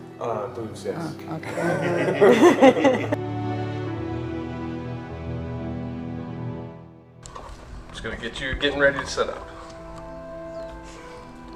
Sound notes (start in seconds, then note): 1.4 all laughing